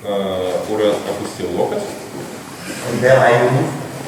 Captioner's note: speaking in a foreign language